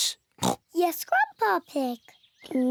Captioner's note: oinks